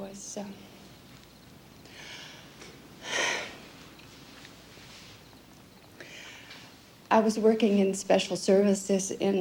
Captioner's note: deep sigh